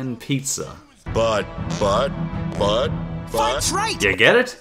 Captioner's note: flatulence in rhythm with "speech"